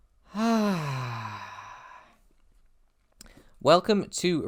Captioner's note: contented sigh